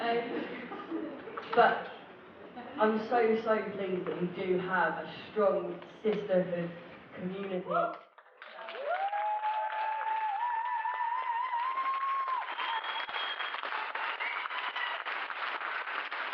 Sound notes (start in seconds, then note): 10.1 raucous cheering, applause and whooping